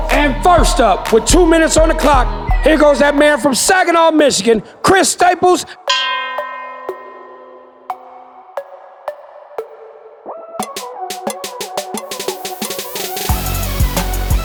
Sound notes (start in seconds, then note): 5.8 bell ringing; 12.8 intense music